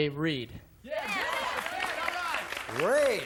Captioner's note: applause